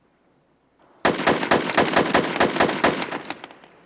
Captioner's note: gunshots